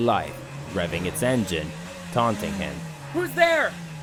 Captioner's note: revving its engine, taunting him